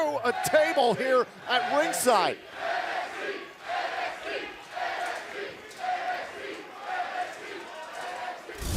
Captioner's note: fans chanting